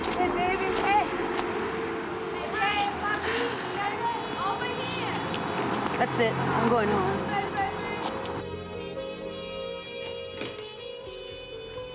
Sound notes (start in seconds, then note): 3.0 sighs